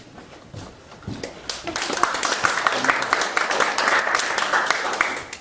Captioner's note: audience applauding